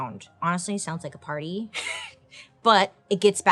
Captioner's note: chuckles